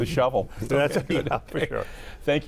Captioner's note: all laughing